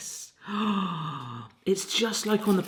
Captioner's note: gasping